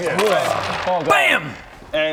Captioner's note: bam!